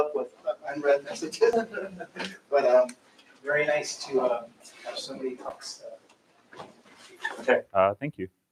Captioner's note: laughs